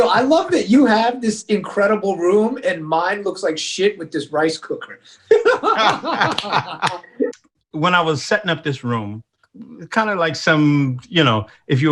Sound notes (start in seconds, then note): 5.2 both laugh loudly